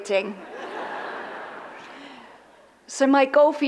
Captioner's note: audience laughs